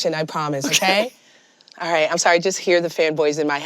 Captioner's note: chuckles